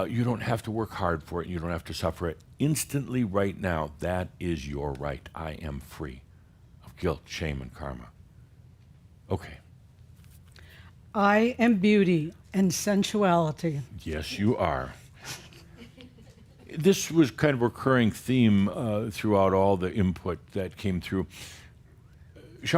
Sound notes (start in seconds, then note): 14.9 a few chuckles